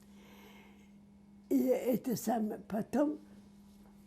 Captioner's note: mumbling